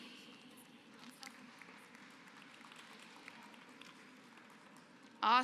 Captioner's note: applause